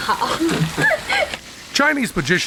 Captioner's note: laughs